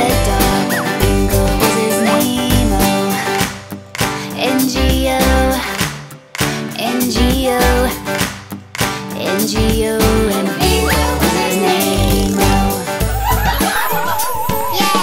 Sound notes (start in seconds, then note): 3.9 clapping; 8.1 clapping